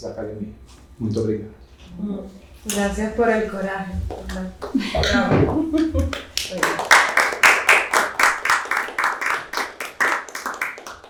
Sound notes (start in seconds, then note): 3.2 speaking portuguese; 5.8 applause